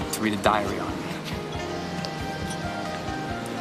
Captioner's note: chuckles